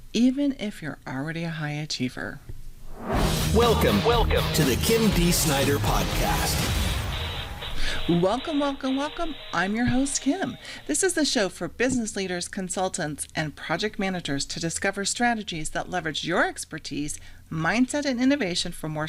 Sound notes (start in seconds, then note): 2.9 upbeat music; 4.0 voiceover